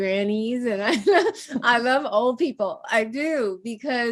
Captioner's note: laughs